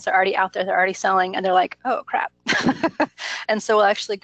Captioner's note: laughs